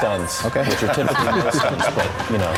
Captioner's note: laughter